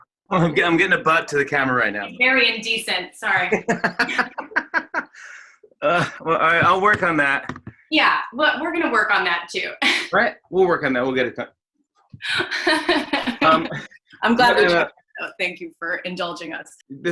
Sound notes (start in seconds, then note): 3.3 laughter; 12.3 laughter